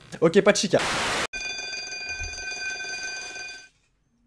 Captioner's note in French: Sonnerie d'école